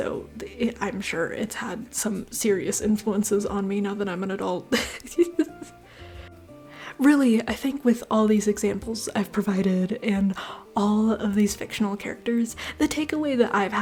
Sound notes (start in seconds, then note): 4.7 laughter